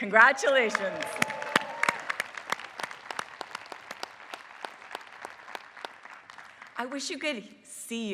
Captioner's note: applause